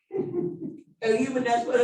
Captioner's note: laughing